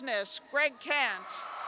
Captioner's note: cheers